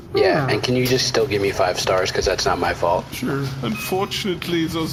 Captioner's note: app chimes